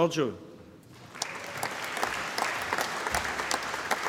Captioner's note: applause